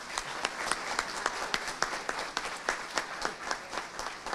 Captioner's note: audience applauding